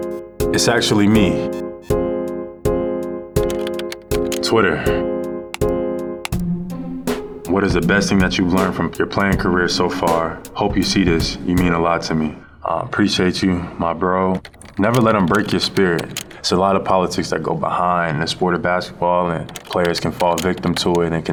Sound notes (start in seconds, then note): 1.8 inquisitive music; 3.3 keyboard typing